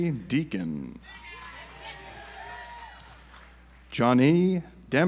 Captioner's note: audience applauds